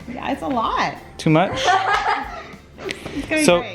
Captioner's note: laughs